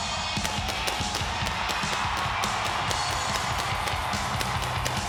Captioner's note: fireworks popping